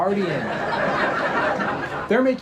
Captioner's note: audience laughing